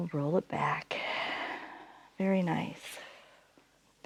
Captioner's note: inhales; exhales